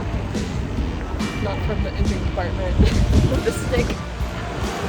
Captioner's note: laughs